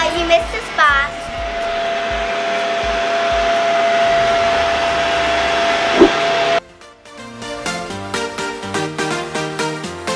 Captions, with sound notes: - You missed a spot. (vacuum whirls) (upbeat electronic music)